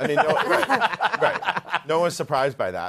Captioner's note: laughter